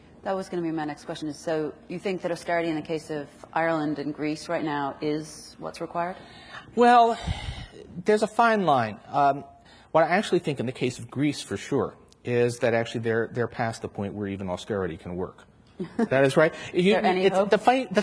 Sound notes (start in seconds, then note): 7.1 sighs; 15.8 chuckles